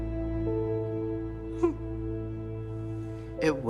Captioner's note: whimpers